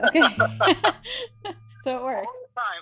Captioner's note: laughter